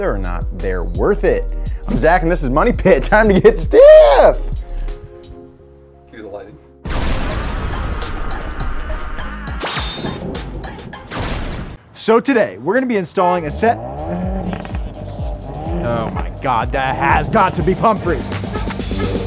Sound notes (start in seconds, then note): 6.8 thunder and upbeat music; 13.4 engine revving